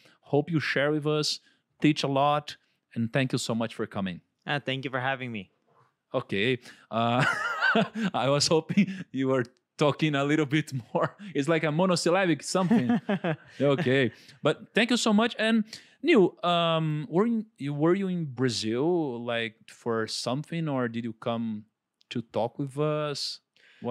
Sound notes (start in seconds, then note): 7.0 laughs; 12.6 laughs